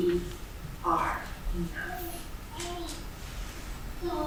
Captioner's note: baby gently cooing